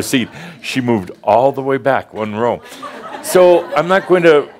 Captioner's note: more chuckles